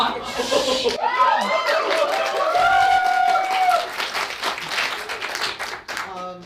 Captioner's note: audience cheers